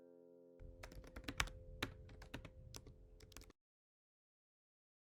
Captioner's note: typing